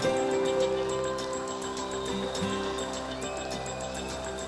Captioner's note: cheers and applause